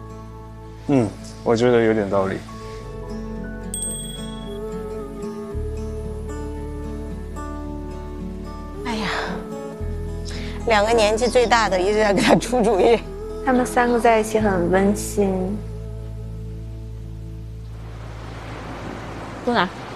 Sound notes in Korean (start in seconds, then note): 3.5 툭툭